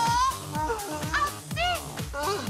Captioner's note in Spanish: Grito